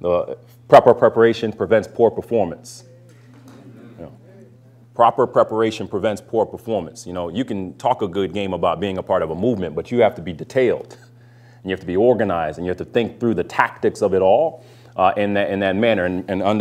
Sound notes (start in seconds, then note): 2.9 audience mumbles in agreement